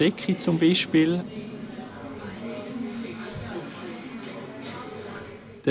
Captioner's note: voices in the restaurant in the background